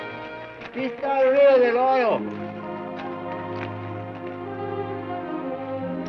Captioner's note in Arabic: الأمريكي الأصلي يتحدث لغة أجنبية